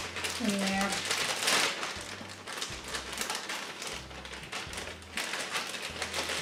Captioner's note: bag loudly rustles